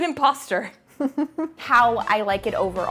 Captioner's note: laughing